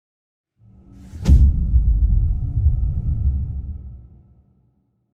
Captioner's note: dramatic sound